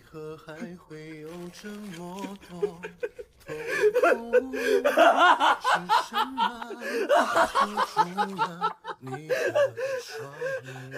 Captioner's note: hahahahahahahahahaha